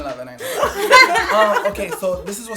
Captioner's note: laughter